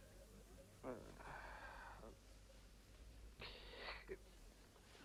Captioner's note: Rothrar grumbles